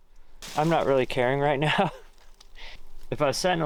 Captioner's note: chuckles